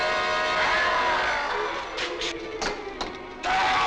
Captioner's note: dramatic music; Larry shrieking